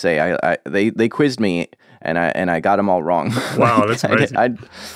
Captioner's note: laughs